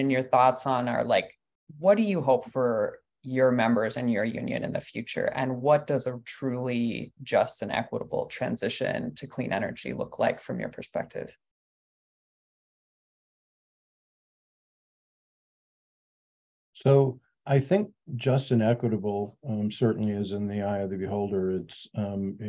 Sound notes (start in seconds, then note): 12.0 pause